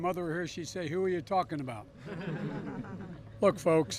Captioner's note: laughter